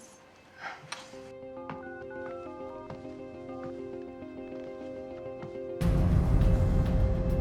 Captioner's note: suspenseful music; phone beeping; dramatic music